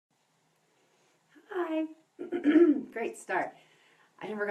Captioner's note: throat clear